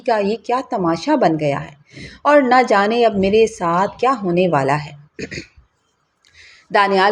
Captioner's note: clears throat